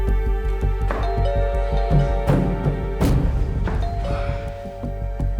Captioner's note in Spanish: Timbre de la puerta